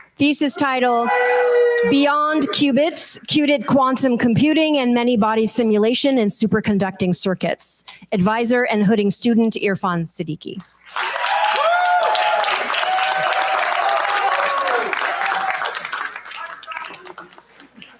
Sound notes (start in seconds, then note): 10.8 cheers, applause